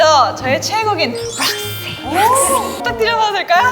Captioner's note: half air, half vocal